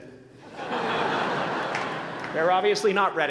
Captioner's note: laughter